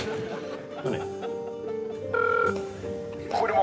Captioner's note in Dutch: telefoon gaat over